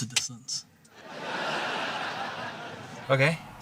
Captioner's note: laughter